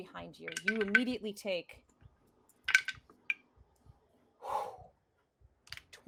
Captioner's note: exhales heavily